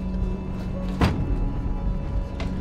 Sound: slam

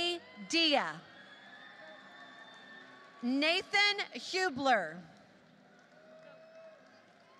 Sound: applause

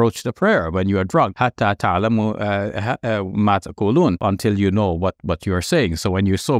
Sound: speaks Arabic

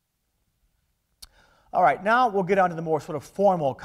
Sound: none

